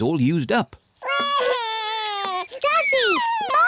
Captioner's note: wails